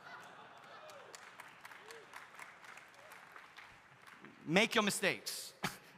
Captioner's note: audience laughs; audience applauding; audience cheering